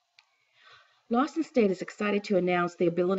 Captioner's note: voiceover